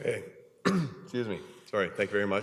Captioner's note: coughs